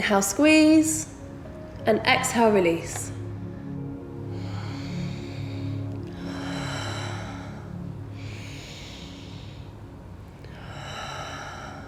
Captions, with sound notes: Inhale, squeeze, and exhale, release. (Heavy breathing)